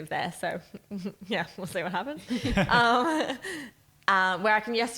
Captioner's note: chuckles